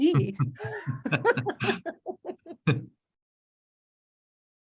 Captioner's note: laughing